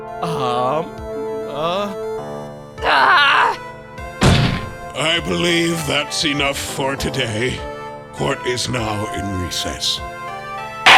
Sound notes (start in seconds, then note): 2.7 growls